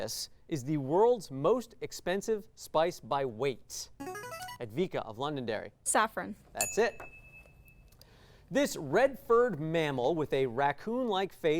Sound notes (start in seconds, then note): 4.0 signaling device tone; 6.6 ding